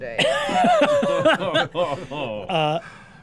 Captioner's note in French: rires